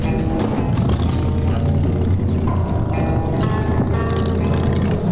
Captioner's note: car engine revving